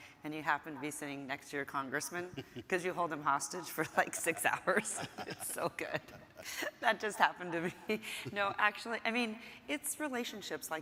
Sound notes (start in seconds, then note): 2.2 chuckling; 3.9 laughing; 6.5 laughs